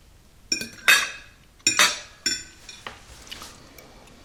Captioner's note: dishes clattering